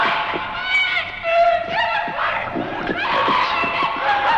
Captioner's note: Diane screaming